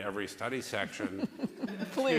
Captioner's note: laughter